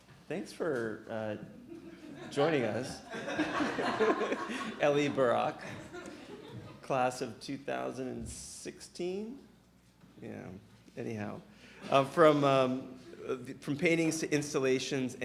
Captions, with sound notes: thanks for joining us. (audience laughing) Elie Barak, class of 2016. Yeah, anyhow from paintings to installations